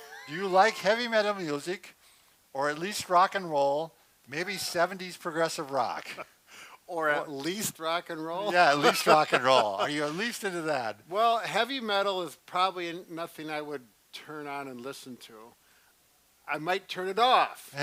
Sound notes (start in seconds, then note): 8.4 laughs